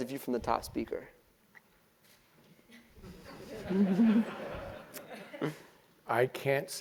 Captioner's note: laugh